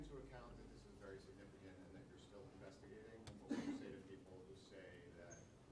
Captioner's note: cough